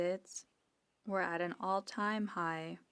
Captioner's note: speaking FRENCH